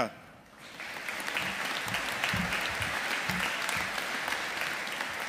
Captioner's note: audience applauding